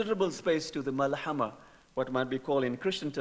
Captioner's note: speaking in foreign language